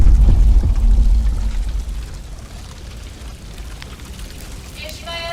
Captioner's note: fire crackling